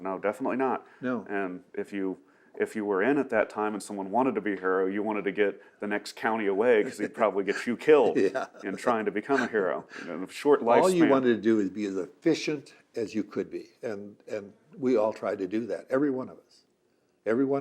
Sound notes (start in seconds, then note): 9.5 laughs